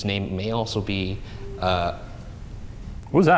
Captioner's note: faint whistle echoes